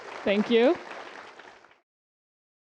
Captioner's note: applause